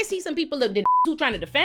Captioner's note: beep